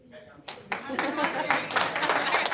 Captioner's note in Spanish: Aplausos